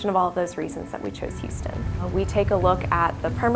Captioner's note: driving noises